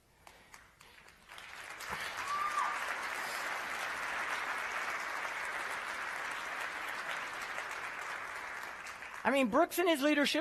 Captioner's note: applause